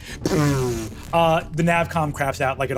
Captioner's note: vocalizes power down